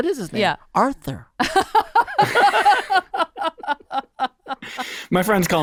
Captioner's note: all laughing